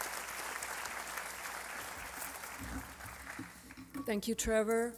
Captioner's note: applause